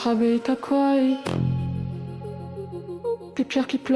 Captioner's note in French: voix filtrée, écho